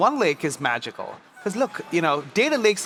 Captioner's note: laughs